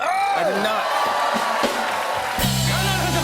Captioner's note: cheers and applause